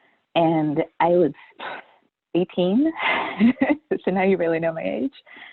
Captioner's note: laughs